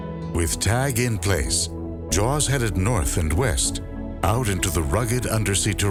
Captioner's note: none